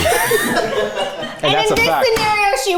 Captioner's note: everyone laughs